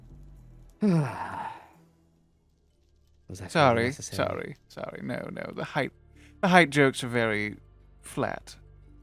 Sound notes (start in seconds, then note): 0.8 sighs